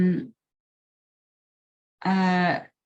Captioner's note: silence